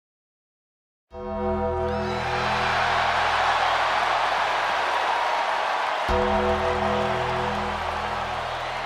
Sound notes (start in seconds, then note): 1.2 bell chiming; 1.7 crowd cheering